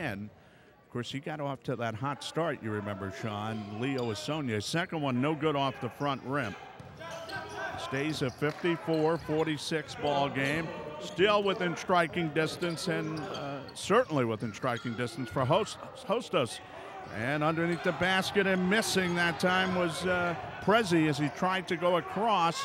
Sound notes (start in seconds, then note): 6.8 ball pounding; 6.8 yelling